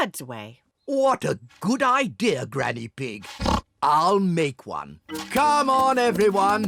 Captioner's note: oinks